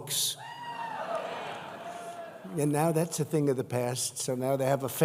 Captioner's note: applause